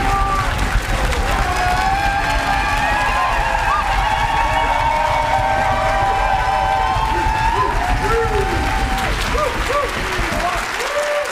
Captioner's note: cheers and applause